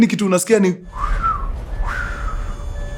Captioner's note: whooshing sound